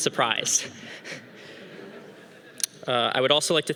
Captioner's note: audience laughing